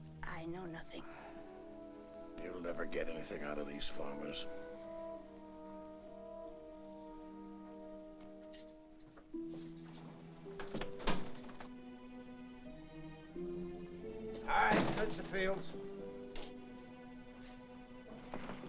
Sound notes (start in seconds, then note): 10.5 window opens